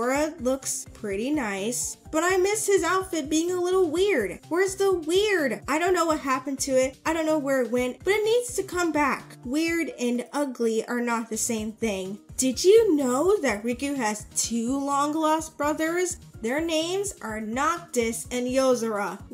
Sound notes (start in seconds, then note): 12.2 sarcastic tone